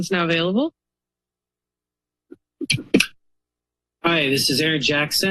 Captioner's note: silence